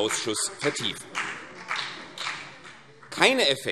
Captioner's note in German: Vereinzelter Beifall CDU und BÜNDNIS 90/DIE GRÜNEN